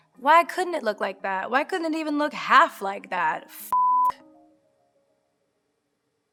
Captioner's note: beeps